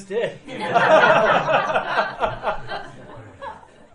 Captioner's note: laughing